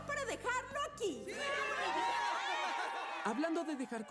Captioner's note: cheers